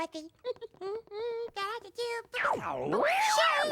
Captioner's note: humming